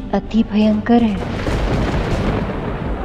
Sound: thundering

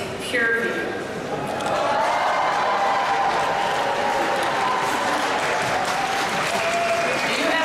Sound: cheers; applause

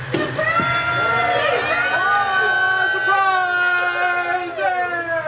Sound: group cheering

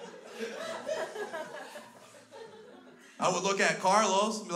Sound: crowd continues to laugh

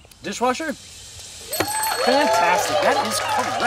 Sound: cheering and applause

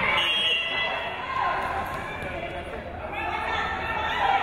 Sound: whistle blows

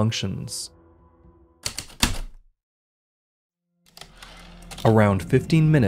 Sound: heavy typewriter keystrokes, typewriter return slide, ♪ atmospheric

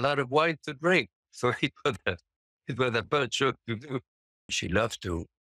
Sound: chuckles

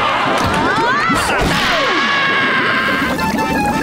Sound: screaming

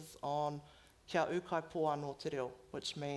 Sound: foreign language

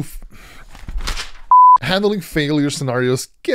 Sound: test pattern beeps

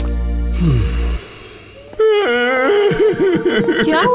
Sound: crying

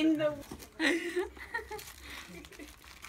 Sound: laughing

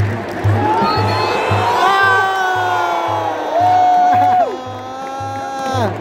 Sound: clap

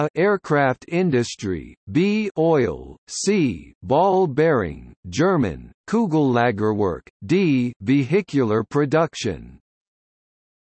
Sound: German

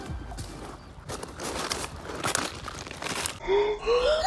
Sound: crunching footsteps on rocks

